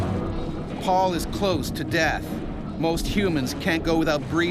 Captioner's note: voiceover